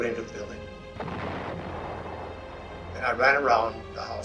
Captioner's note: grenade explodes